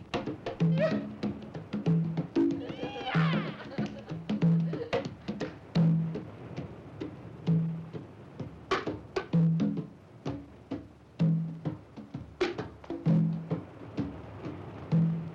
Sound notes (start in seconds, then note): 0.0 drum music; 0.6 men yipping; 4.1 drum music